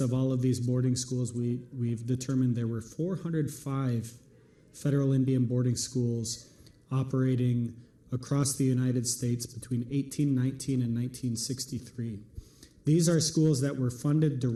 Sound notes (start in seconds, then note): none